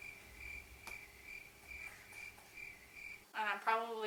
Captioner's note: crickets play